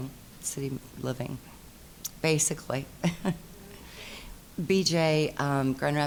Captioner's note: chuckling